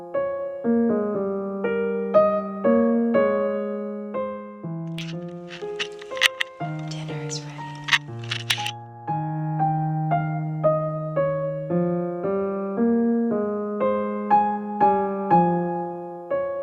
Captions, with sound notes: [Sound of camera being turned around] [Whispering] Dinner is ready!